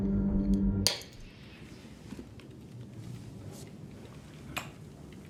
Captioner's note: chewing gum snaps